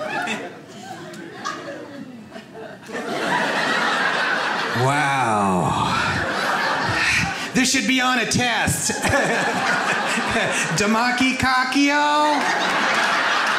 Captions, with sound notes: (audience laughs) Wow, this should be on a test. (laughs) (audience laughs) Demacki Cockio?